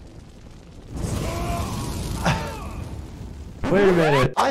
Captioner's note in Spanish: fuego crepitante; Superman gritando; rayado de discos